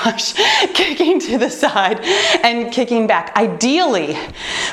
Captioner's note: laughs